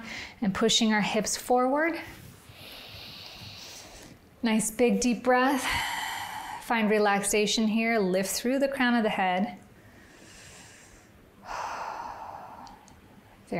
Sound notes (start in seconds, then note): 2.9 inhales; 5.6 exhales; 11.4 exhales; 11.4 inhales